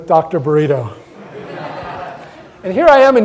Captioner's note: audience laughter